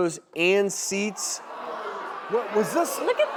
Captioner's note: audience groans